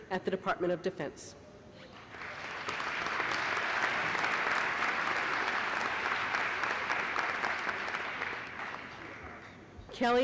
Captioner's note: applause